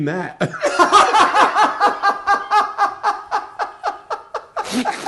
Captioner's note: laughing